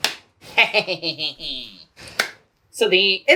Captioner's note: evil cackle